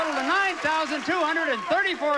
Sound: audience applauding

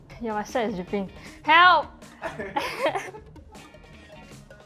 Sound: laughs

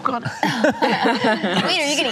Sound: laugher

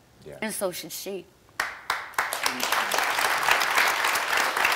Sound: audience applauding

